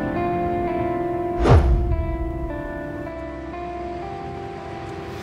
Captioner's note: air whooshes; traffic humming